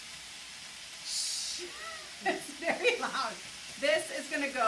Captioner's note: laughs